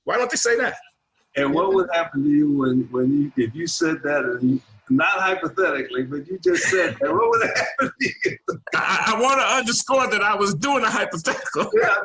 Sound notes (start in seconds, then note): 8.4 laughing; 11.1 laughing